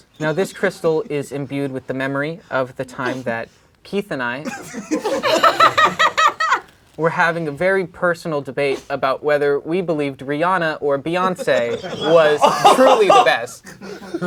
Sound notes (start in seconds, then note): 4.5 crowd laughing